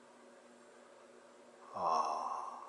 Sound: cooing

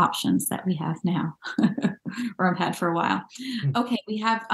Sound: chuckles

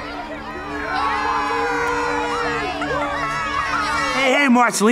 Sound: group cheering

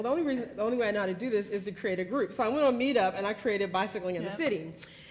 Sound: none

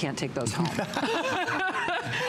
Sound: laughter

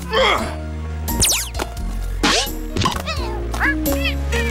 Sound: grunts; shoe thuds; mouse twittering

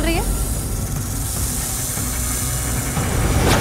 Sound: hissing sound

